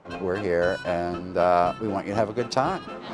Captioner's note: laughter